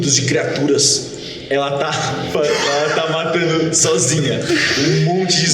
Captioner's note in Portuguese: risos